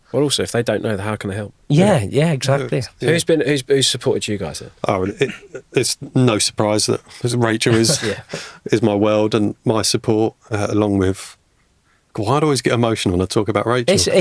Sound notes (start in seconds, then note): 7.6 chuckling